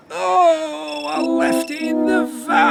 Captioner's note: ringing Continues; groans